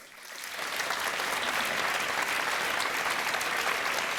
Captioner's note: audience applauding